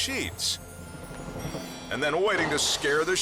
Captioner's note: chimes ring